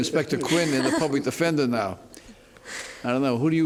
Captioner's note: laughter